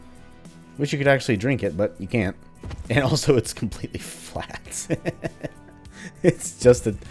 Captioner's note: laughs